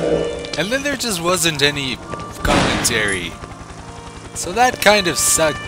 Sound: gunshot

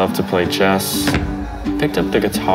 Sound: chess piece thuds

